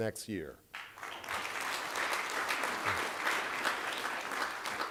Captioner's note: applause